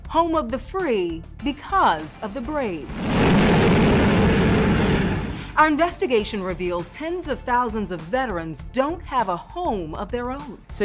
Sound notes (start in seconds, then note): 2.8 jet whooshing